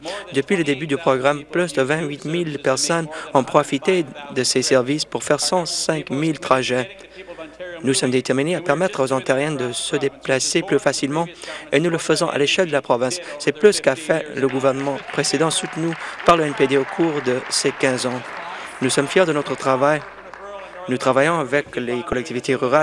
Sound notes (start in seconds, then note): 20.8 cheering; 21.2 applause